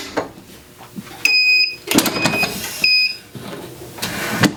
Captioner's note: press beeping